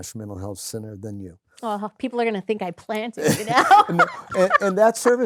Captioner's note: laughter